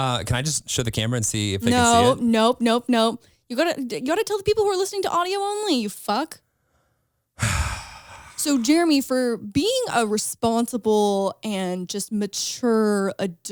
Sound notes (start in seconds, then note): 7.4 sighs